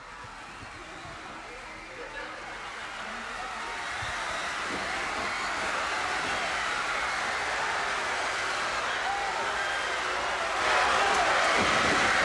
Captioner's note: crowd cheering